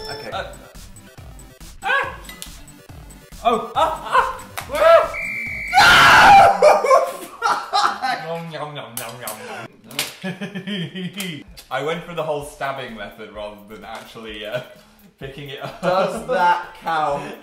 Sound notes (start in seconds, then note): 5.0 whistle sound effect; 6.4 laughs; 10.2 laughs